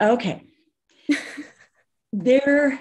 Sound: chuckles

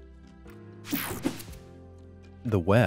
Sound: air whooshing

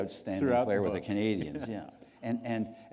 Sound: chuckle

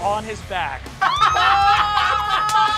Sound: laughing and cheering

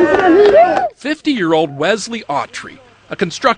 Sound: cheering

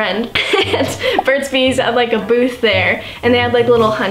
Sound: laughing

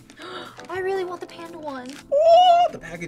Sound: gasps

